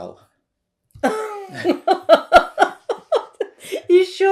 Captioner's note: laughing